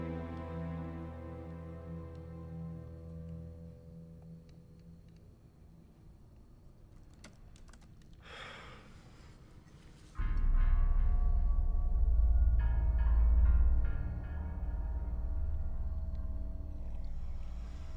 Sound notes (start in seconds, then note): 5.2 keyboard typing; 10.2 eerie music